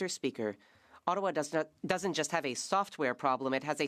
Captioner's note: speaking French